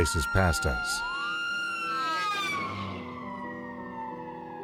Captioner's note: screeching sirens